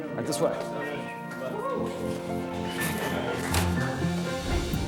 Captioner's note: soft expectant music; contestants chattering